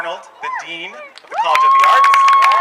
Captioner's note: cheering